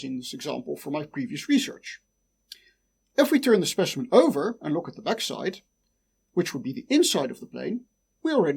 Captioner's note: click